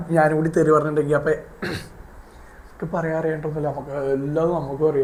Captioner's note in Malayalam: തൊണ്ട ശരിയാക്കുന്നു